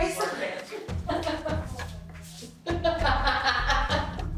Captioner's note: laughing